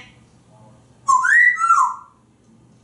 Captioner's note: whistling